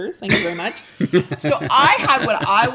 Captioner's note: laughing